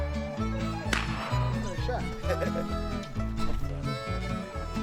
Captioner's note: gun fires